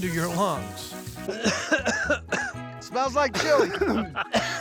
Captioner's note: coughing